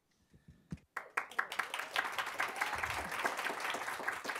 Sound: audience applauds

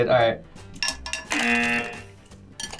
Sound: buzzer rings

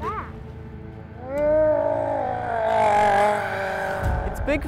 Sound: loud Gurgling

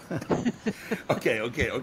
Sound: laughing

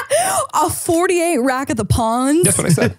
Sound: laughs

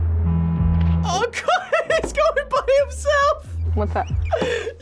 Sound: laughs

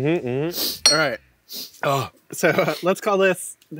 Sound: grunts

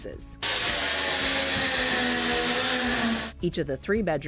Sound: whirring

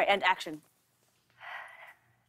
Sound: sighs

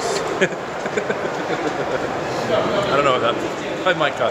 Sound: laughs

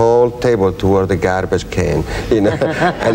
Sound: laughing

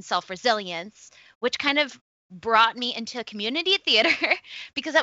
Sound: laughs

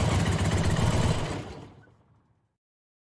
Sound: Suzuki WitchCycle Engine Stop

